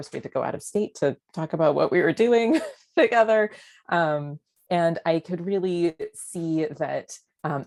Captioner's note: laughter